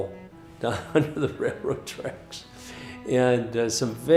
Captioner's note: chuckles